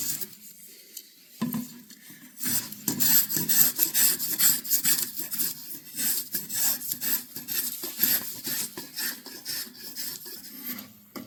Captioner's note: scraping